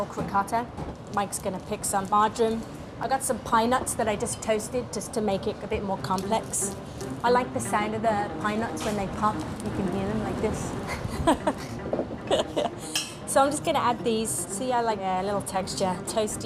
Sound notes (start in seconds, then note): 12.2 chuckles